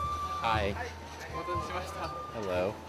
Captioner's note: speaking in foreign language